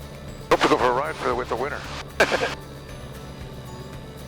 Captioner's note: laughs